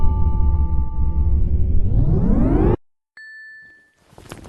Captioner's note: powering up; shuffling